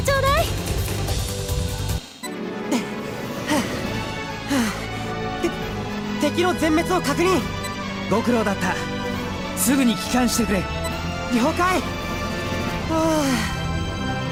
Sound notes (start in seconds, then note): 2.6 huff; 3.4 pant